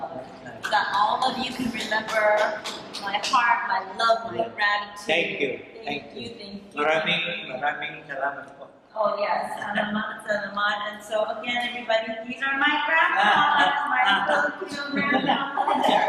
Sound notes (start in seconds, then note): 8.8 foreign language